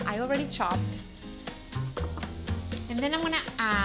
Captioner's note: sizzling